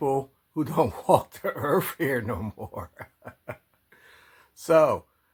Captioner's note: laughs